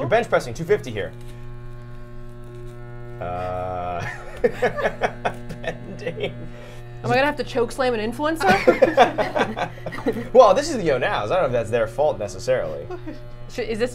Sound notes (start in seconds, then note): 3.2 chuckles